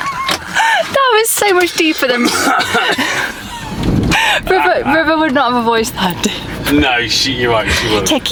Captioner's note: laughing